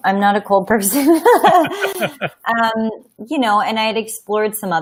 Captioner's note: laughing